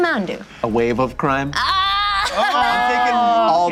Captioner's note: exaggerated laugh